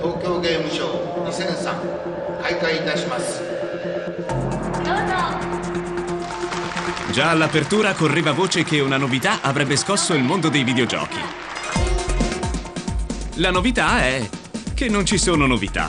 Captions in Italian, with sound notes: [Applauso] avrebbe scosso il mondo dei videogiochi [Applauso] La novità è che non ci sono novità